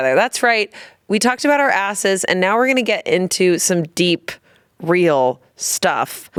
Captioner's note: none